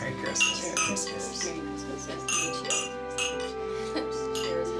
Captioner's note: glasses clanking